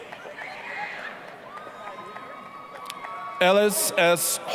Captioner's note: applause, cheering